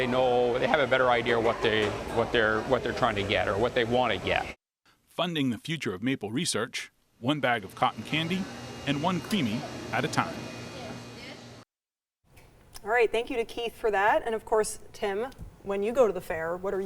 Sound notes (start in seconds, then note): 10.7 ice cream machine whirring